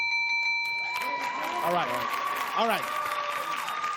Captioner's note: bell dings